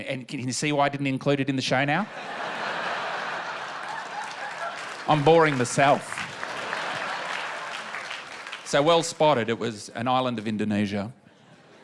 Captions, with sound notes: Can you see why I didn't include it in the show now? (LAUGHTER) I'm boring myself. (APPLAUSE) So well spotted. It was an island of Indonesia.